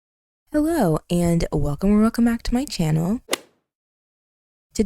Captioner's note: golf hit sound effect